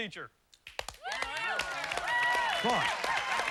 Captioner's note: applause